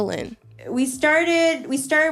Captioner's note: soundbite of archived recording